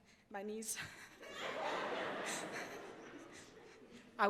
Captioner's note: laughs